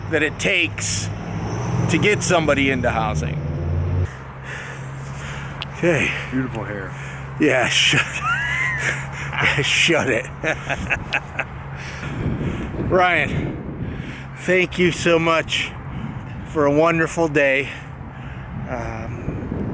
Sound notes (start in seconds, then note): 10.7 laughs